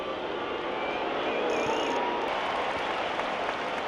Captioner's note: crowd cheering